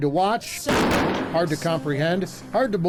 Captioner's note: exploding